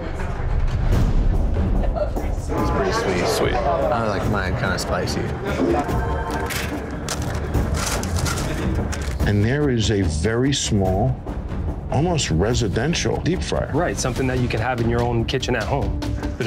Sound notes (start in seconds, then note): 0.2 tense music; 6.3 packet crunching